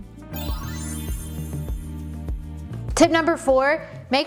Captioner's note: gentle music; transition sound